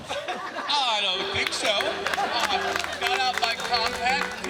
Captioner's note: crowd laughs